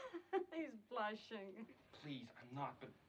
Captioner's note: giggling